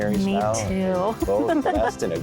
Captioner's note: giggling